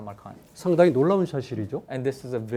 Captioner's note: speaking in Korean